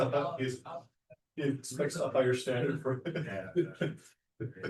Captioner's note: chuckles